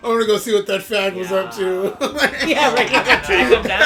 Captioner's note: laughs